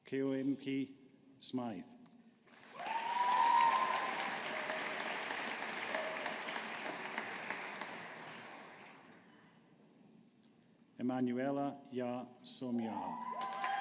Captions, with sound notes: Caoimhe Smyth. (AUDIENCE APPLAUDING) Emmanuella Yaa Somuah.